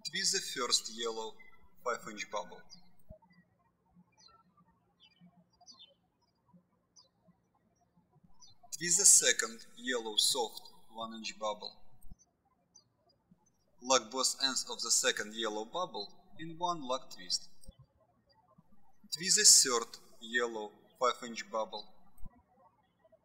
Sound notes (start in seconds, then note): 4.0 birds chirping; 23.0 birds chirping